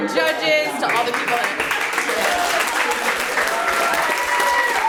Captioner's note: audience applauds